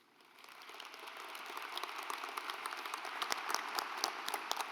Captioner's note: audience applauds